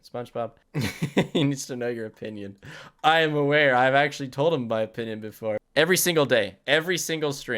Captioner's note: laughs